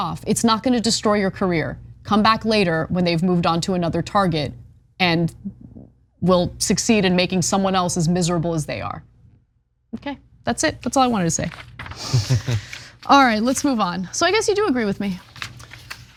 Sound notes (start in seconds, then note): 12.0 laugh